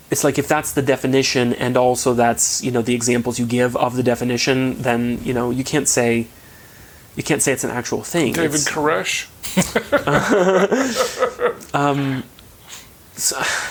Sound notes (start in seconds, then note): 9.4 chuckling